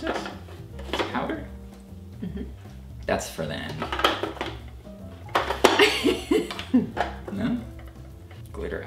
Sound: laughs

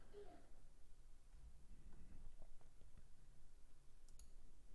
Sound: keyboard clicking

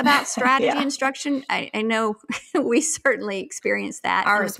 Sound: laughs

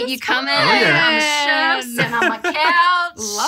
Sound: all conversing

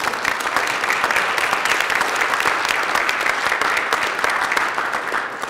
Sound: applause

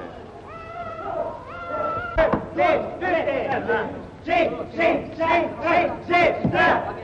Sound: people around cheering

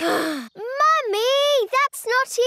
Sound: sighs

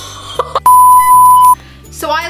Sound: buzzing; beeping

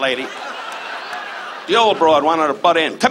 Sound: audience laughs

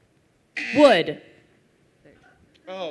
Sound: buzzer

